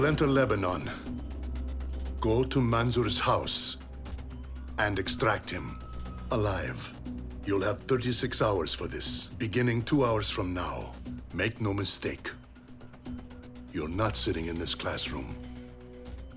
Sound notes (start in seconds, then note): none